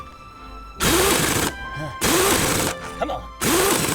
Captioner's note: impact Wrench tears into wheel nut